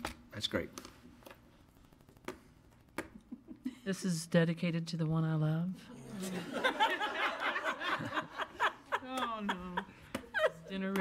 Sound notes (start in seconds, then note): 6.2 attendees laugh